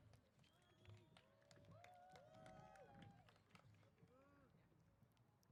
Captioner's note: applause & Cheers